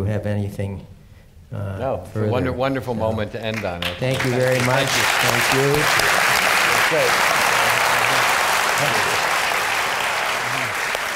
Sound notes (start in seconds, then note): 6.0 applause